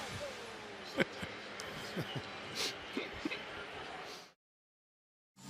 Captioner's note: laughing